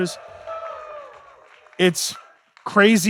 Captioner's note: audience cheering